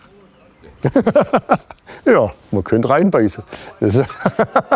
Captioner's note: laughs